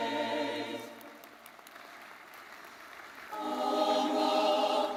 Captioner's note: audience clapping